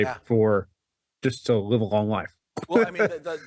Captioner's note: laughs